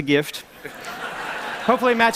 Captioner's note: laughter